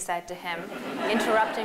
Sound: laughter

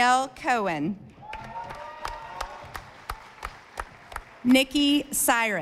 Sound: audience applauding

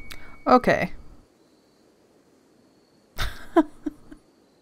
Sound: laughs

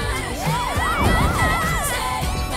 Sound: police sirens

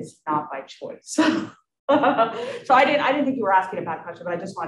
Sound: chuckles

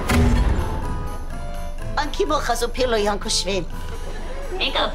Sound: speaking gibberish

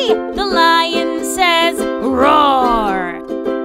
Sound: lion roars

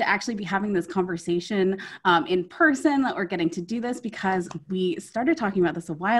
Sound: on Zoom

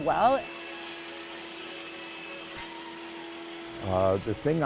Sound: electric sawing

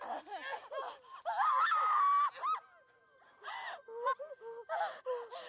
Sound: Jocelyn screams

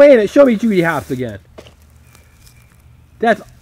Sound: voiceover

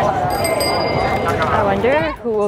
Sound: bike bell

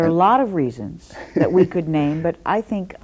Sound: laughs

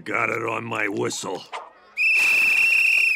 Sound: whistling

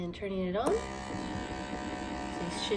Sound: machine whirls and vibrates

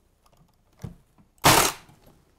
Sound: staple gun

